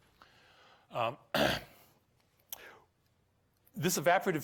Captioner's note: clears throat